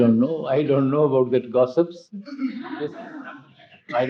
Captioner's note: laughter